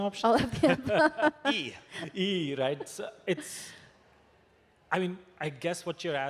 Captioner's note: laughter